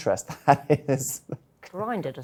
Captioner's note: chuckles